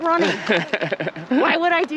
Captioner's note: laughs